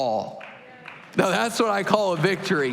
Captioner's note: applause